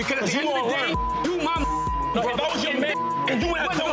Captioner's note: beep